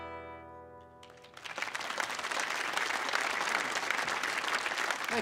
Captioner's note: audience applauds